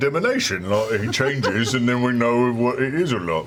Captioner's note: laughter